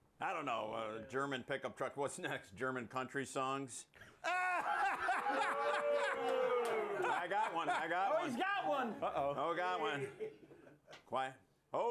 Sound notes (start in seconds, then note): 6.8 laughter